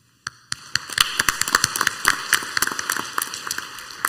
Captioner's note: clapping